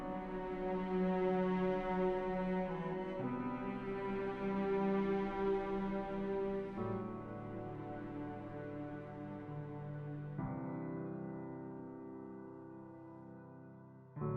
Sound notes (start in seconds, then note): none